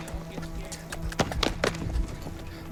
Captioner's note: clapping